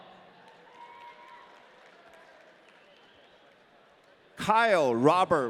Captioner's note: audience cheering